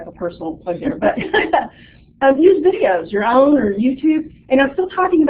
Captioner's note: chuckles